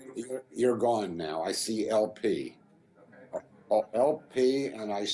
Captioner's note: voiceover